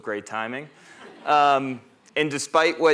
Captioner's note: laughter